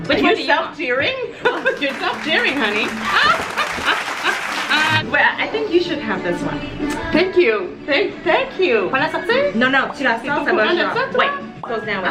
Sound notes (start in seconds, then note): 4.0 laughs; 4.6 applause